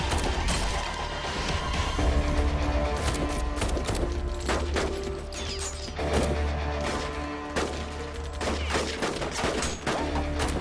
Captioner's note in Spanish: Disparos